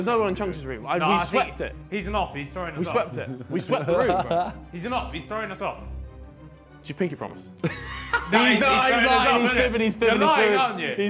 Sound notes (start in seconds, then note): 7.6 laughs